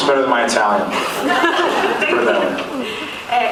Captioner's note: laughs